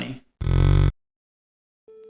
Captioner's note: slow motion cow sound